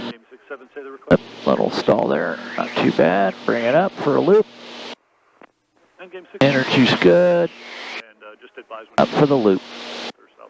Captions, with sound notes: (radio chattering) Little stall there. Not too bad. Bring it up for a loop. Energy's good. - And just advise me- - Up for the loop.